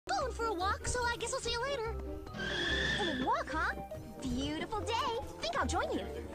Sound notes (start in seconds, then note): 1.8 running noises